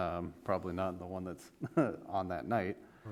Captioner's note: laughs